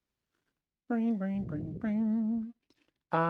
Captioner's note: humming